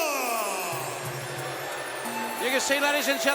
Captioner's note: audience booing